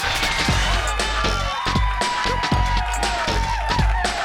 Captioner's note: audience cheers